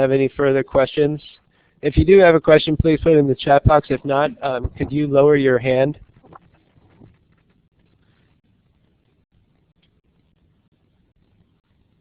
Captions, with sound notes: further questions. If you do have any further questions please put them in the chat box, if not can you lower your hand? [pause] At this time I see no further questions. If you